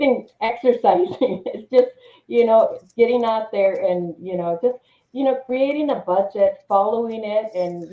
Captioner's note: chuckles